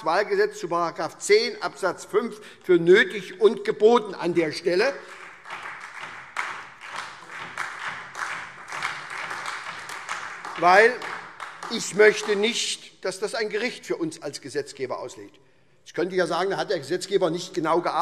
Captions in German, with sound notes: zu § 10 Abs. 5 für nötig und geboten, weil ich nicht möchte, dass dies für uns als Gesetzgeber ein Gericht auslegt. [Beifall SPD, Freie Demokraten und DIE LINKE] Man könnte jetzt sagen, da hat der Gesetzgeber nicht genau gearbeitet;